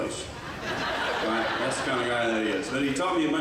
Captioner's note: audience laughs